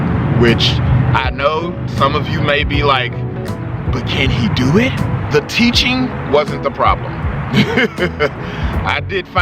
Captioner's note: laughing